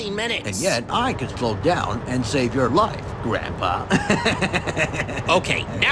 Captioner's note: laughs